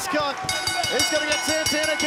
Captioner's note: bell ringing